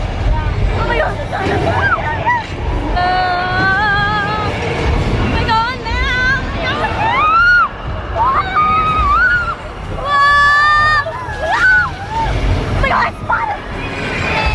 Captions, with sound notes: Oh my god. Argh. We're going down. (screams) (crowd screams)